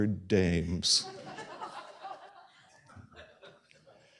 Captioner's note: laughter